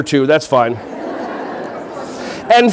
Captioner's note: audience laughing